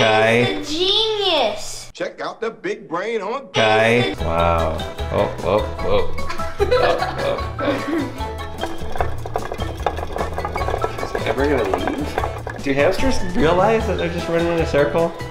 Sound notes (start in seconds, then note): 6.7 hamster wheel turning; 9.5 upbeat music